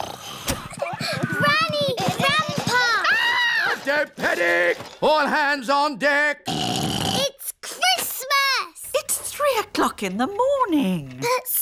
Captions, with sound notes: (SNORING) Granny! Grandpa! -(SCREAMS) -Don't panic! All hands on deck! (SNORTS) It's Christmas! It's 3:00 in the morning!